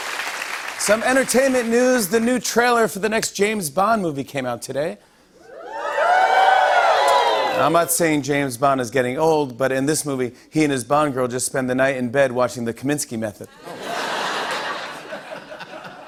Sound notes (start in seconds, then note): 5.4 cheering; 13.5 laughter